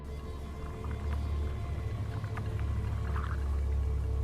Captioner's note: light sizzling